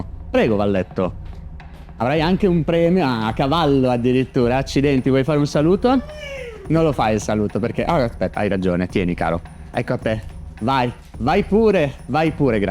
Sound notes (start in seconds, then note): 5.9 neigh